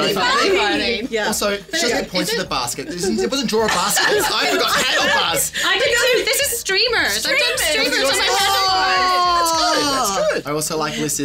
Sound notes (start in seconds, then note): 2.8 group laughing